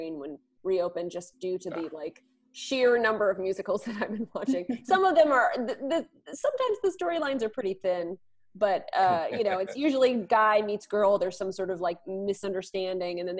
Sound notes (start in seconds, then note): 9.0 laughs